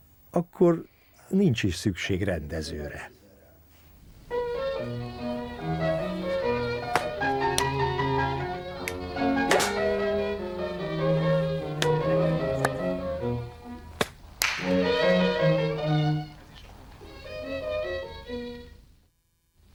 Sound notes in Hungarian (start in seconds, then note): 1.2 lágy, idilli klasszikus zene; 3.5 kézcsapások csattanása; 17.3 lágy, idilli klasszikus zene